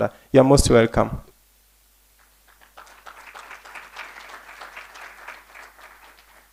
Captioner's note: applause